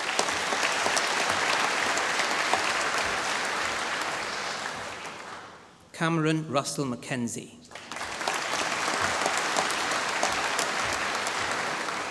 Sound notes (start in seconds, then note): 0.0 applause; 7.7 applause